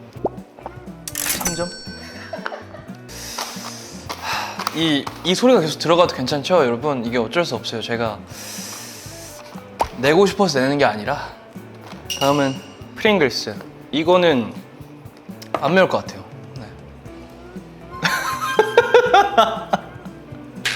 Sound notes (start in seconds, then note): 8.3 sssp